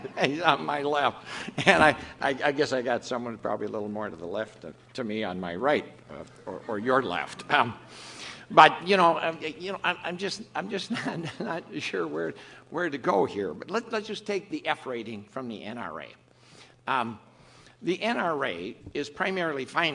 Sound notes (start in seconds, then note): 0.0 off camera laughter; 10.6 laughs